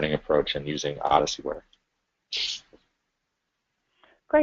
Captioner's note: pause